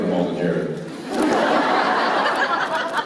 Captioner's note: laughter